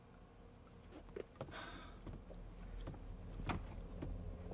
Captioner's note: Steve sighs